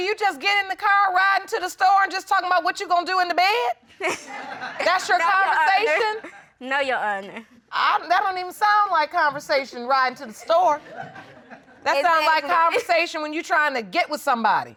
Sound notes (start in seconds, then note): 4.0 laughing